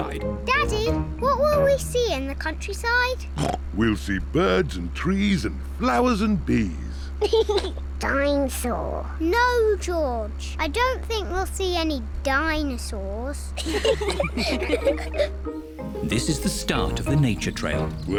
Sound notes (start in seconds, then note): 3.4 snorts; 7.2 laughs; 13.6 all giggle